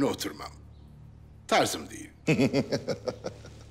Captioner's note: laughter